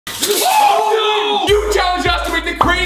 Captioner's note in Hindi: उत्साह में चिल्लाना